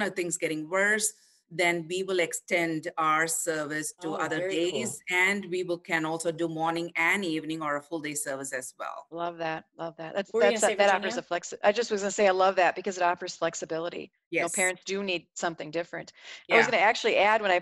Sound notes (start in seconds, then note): 10.4 murmurs